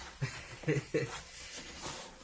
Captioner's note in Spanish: riendo